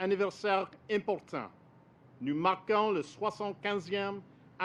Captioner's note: speaks French